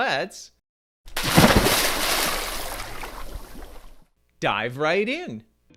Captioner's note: water splashes